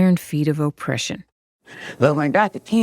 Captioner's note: soundbite of archived recording